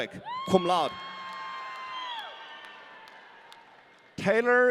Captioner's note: audience cheering